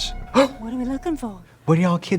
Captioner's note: Trixie gasps